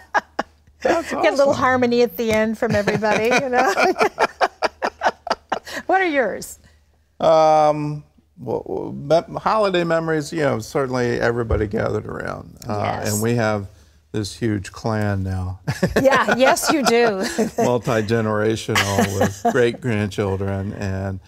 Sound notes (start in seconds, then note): 5.1 laughter